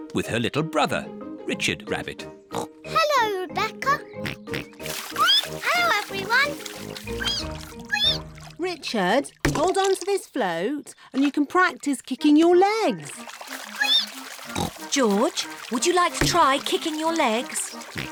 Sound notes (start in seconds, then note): 2.5 oinks; 5.0 squeaks; 7.0 richard squeaks; 13.9 squeaks